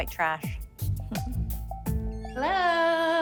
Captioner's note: chuckles